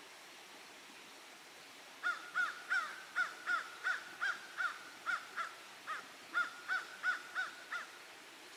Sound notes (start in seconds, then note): 2.0 crow cawing